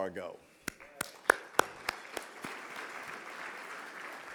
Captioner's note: audience clapping